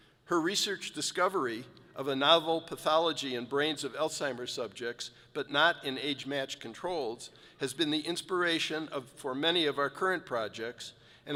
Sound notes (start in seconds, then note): none